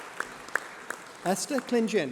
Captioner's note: applause